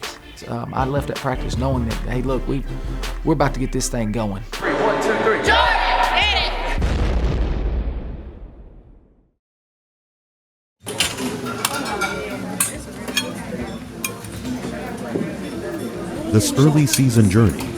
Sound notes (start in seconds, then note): 6.6 explosion; 10.8 dishes clinking; 16.4 voiceover